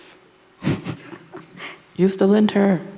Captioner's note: laughing